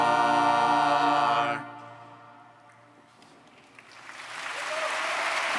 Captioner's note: applause